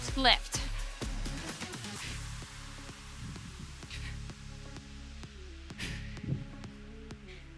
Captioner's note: upbeat music continues; breathing deeply